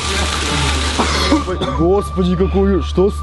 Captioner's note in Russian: Кашляет